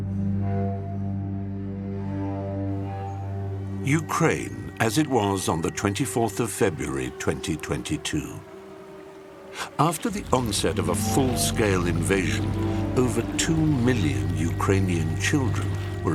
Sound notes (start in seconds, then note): 5.9 air-raid alarm; 9.9 the sound of running water